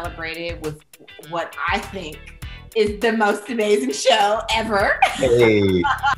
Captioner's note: laughs